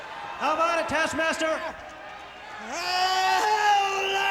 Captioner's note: Taskmaster shrieking